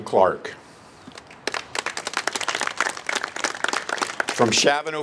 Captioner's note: applase